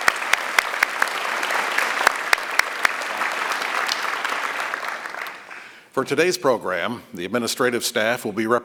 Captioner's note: applause